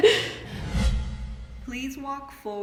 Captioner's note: everyone laughing